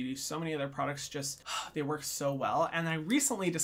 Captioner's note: sighs